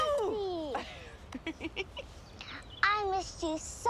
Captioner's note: laughs